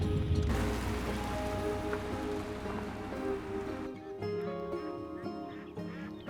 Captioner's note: gentle music; geese honking